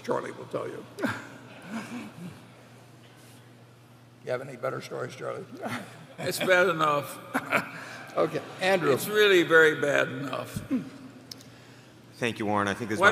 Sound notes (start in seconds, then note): 2.7 laughter